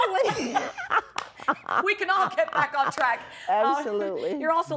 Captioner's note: laughs